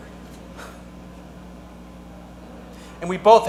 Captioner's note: actor sighs